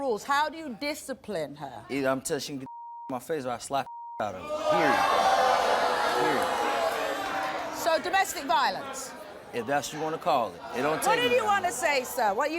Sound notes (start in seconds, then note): 2.7 beep; 4.3 crowd booing